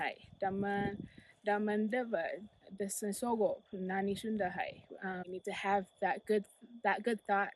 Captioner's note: speaking foreign language